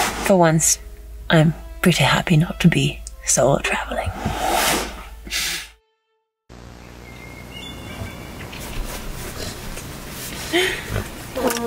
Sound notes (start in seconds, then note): 6.6 birds chirping